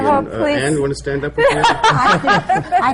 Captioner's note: laughter